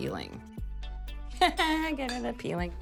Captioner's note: laughs